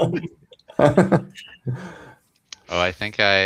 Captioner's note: laughter